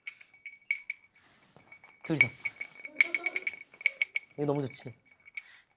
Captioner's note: clink clink jingle jingle